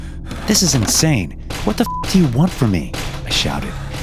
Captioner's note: beep